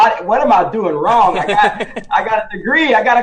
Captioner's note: laughs